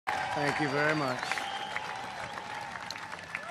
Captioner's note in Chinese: 鼓掌